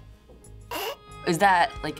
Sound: gagging

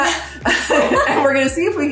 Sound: both laughing

